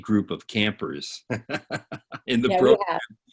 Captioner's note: laughing